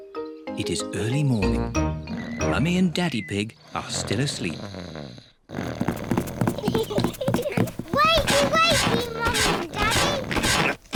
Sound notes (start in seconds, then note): 5.3 snores; 6.2 both giggle